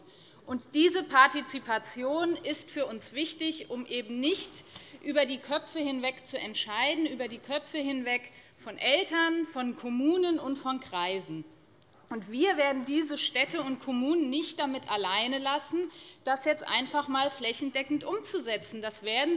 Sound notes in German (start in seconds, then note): none